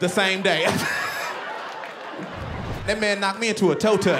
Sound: laughter

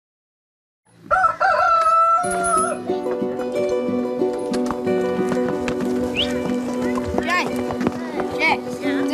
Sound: rooster crows, hoofbeats, whistling

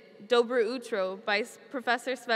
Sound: speaks foreign language

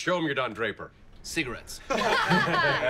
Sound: everyone laughs

